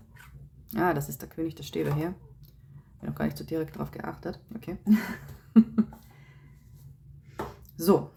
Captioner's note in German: gelächter